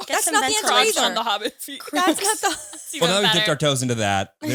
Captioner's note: all laughing